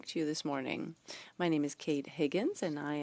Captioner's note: speaking French